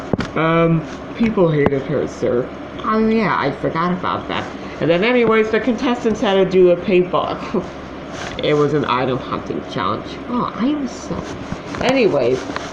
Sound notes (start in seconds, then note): 7.4 scoffs